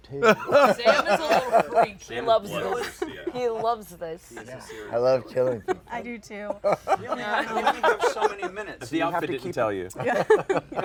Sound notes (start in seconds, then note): 0.2 laughter; 6.5 laughter; 10.0 laughs